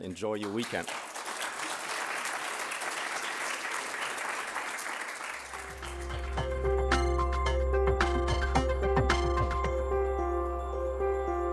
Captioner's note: applause